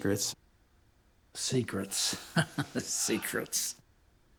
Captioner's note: chuckles